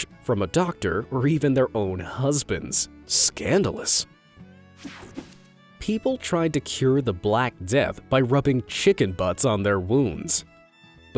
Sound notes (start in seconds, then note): 4.8 image whooshing